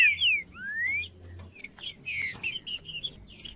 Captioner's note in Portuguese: trinca ferro cantando